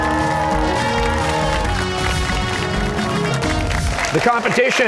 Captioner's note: cheers and applause